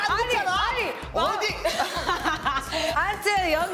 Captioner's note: cracking up